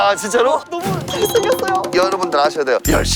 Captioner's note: jingle-jangle